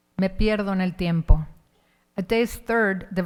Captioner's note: speaking in Spanish